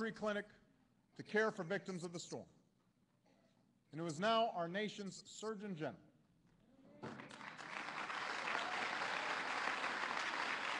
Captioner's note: applause